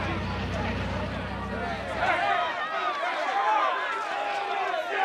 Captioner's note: journalists clamoring